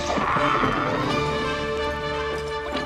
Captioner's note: screams